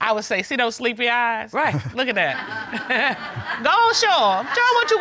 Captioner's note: chuckles